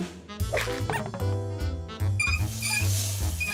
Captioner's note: toys squeaking; knobs squeaking